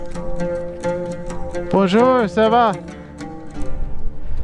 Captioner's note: French